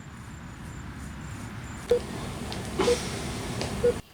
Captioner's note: hospital sounds